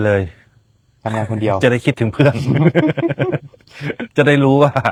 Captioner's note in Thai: เสียงหัวเราะ